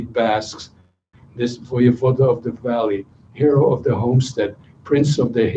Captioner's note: non-english speech